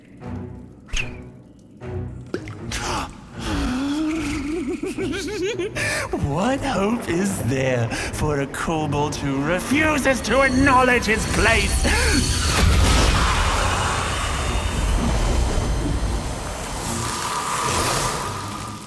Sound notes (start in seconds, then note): 3.4 gasps, giggles with sadistic delight